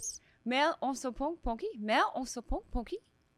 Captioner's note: speaking in French